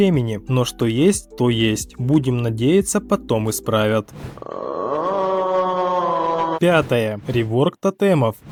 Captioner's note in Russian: ЗВУКИ негодования